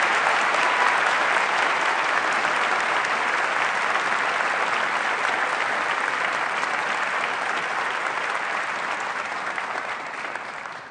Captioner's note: applause